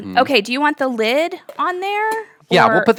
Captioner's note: lid clatters